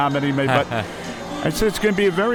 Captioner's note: laughs